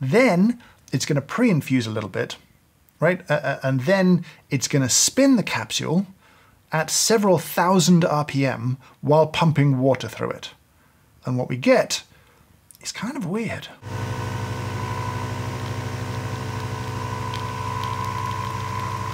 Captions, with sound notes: Then it's going to pre-infuse a little bit, right? And then it's going to spin the capsule at several thousand RPM while pumping water through it, and what we get is kind of weird. (machine whirring)